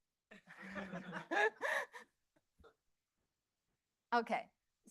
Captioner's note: laughter